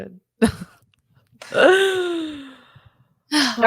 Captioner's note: laughs